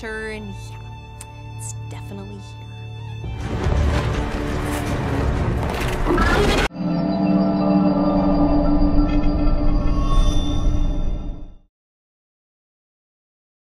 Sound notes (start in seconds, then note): 3.4 dark music; 5.9 dragon screeches